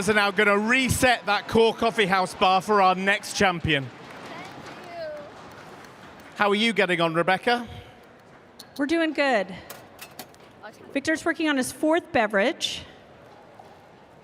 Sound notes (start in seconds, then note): 5.4 applause